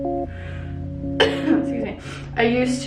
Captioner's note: cough